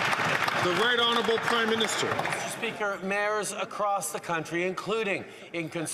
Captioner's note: some Applause